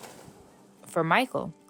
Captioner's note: plants shuffling